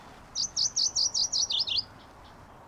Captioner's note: bird singing